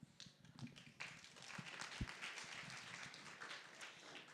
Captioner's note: applause